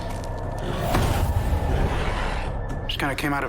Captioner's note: suspenseful; snarling